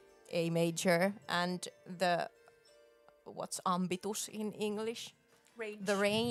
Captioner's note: speaking Finnish